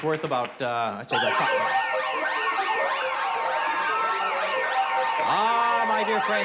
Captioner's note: alarm wailing